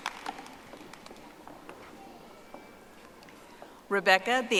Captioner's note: audience applauding